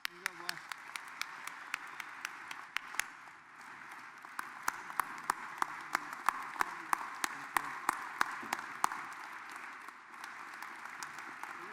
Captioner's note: applause